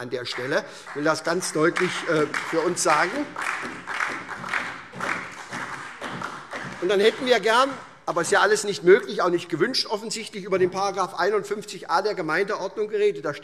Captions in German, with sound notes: Ich will das für uns ganz deutlich sagen. [Beifall SPD und vereinzelt DIE LINKE] Dann hätten wir gerne - aber das ist jetzt alles nicht möglich, offensichtlich auch nicht gewünscht - über den 51a der Gemeindeordnung geredet.